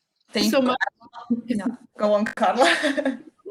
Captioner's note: chatter